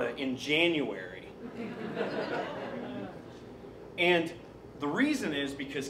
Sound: laughing

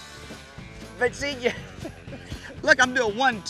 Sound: laughing

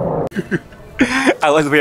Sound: laughs

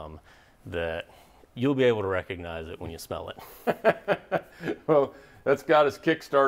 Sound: laughs

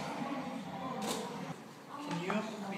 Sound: camera snapping

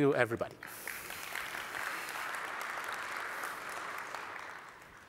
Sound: applause

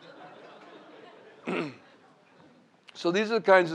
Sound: laughter

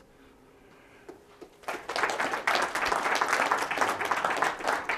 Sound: applause

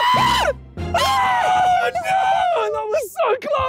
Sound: screaming

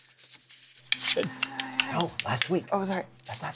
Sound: whispers

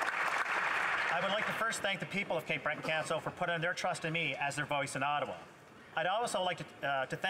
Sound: some Applause

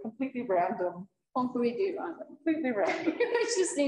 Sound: chuckles

